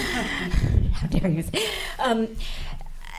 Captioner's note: laughing